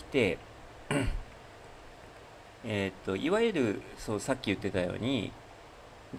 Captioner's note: clears throat